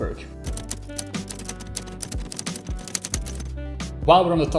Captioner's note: keys clacking